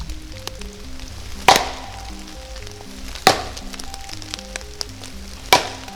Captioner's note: stick banging against tree